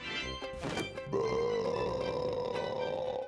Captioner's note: belching